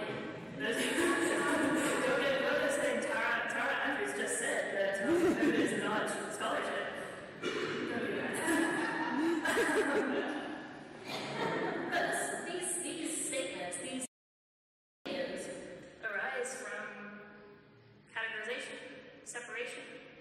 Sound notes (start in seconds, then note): 1.9 laughs